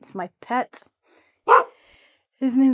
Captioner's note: barks